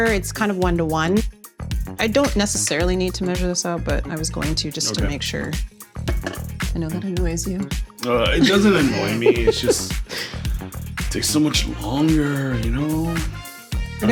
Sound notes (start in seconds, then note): 8.0 laughs